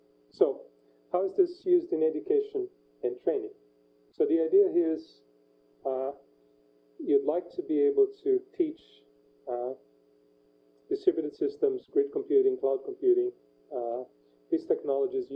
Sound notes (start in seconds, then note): 9.4 pause